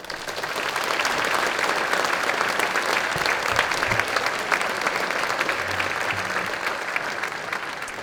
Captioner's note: applause